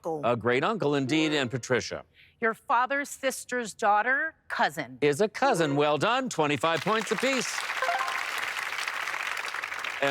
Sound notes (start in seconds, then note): 7.8 bright chime